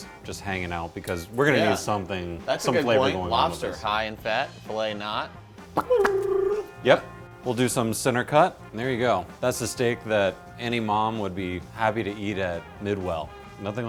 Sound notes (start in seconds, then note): 5.7 rolls tongue